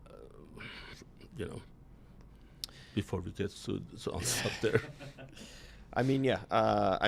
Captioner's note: laughter